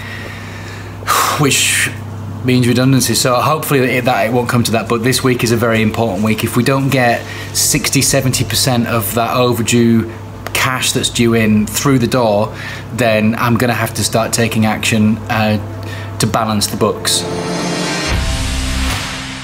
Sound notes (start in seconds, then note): 0.0 sighs